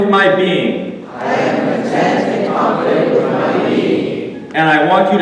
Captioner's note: audience repeating